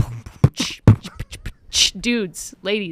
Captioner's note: beatboxing